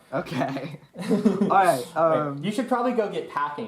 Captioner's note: chuckles